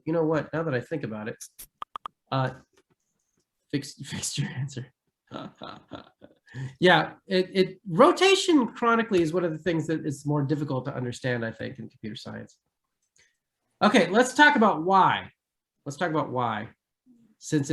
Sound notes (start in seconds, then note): 5.3 giggles